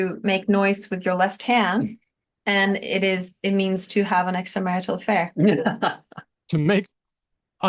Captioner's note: laughs